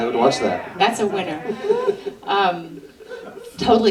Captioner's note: laughter